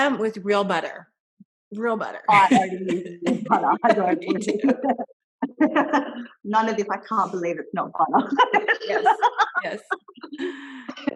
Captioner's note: laughter